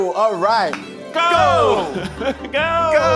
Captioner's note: claps